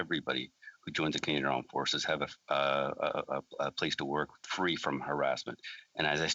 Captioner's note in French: voix de l'interprète